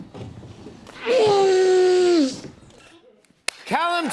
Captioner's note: groans